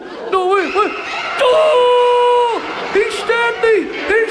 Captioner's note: Ted E screams